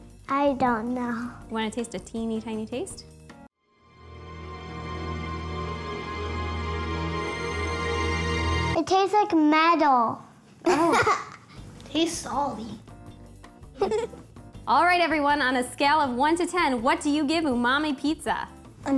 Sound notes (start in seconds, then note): 3.6 suspenseful instrumental music; 10.7 laughs; 13.7 laughs